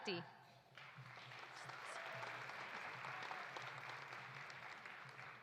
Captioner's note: audience applauding